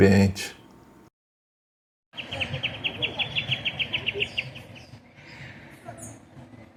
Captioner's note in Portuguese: Assovios de pássaros